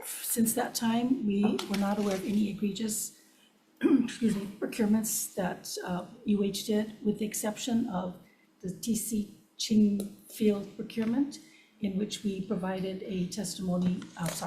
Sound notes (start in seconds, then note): 3.8 coughs